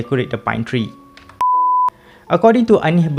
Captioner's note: beep